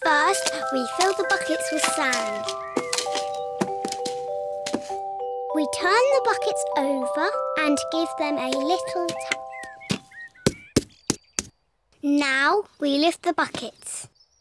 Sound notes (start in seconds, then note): none